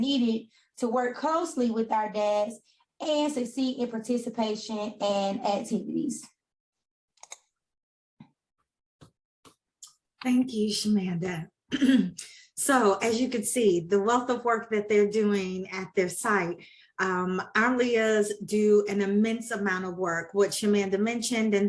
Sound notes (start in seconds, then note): 11.7 clears throat